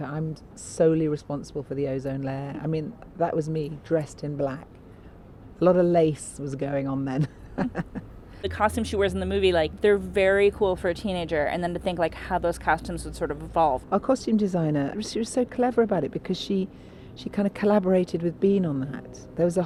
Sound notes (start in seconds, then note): 7.2 laughs